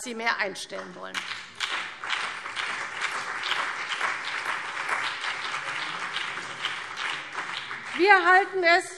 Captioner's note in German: Beifall CDU und BÜNDNIS 90/DIE GRÜNEN